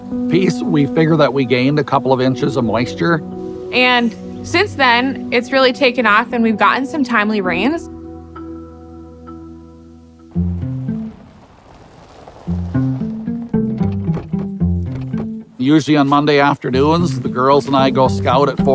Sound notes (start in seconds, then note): 10.2 gentle rhythmic music; 10.3 car on dirt road